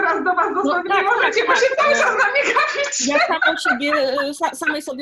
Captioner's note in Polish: śmiech